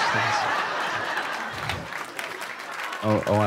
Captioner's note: laughter